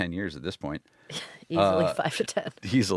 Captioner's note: laughs